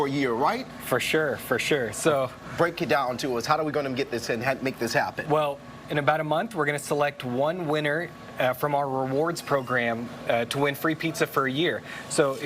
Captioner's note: talking fast